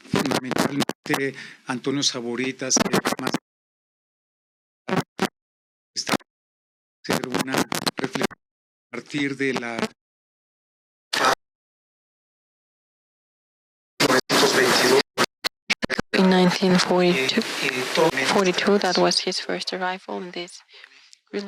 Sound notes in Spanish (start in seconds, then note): 1.9 interferencia; 7.0 interferencia